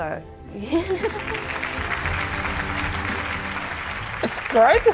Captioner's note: applause